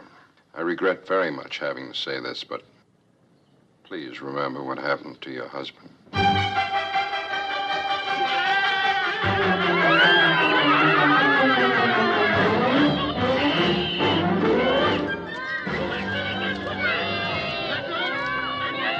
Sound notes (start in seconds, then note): 6.1 dramatic music; 8.2 cawing; 8.2 laughing; 16.8 children Shouting